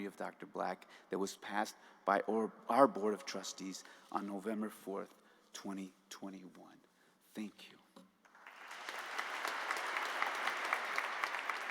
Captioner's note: applause